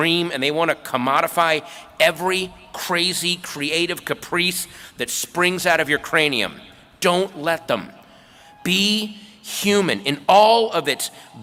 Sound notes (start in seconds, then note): none